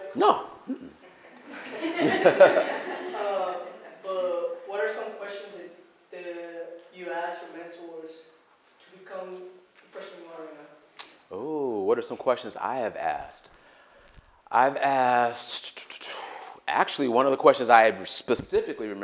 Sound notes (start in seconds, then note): 1.0 laughter